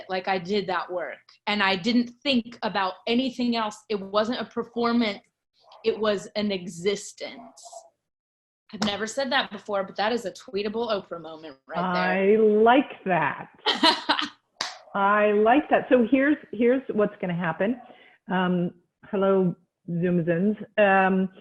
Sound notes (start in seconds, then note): 14.4 laughs; 14.6 clap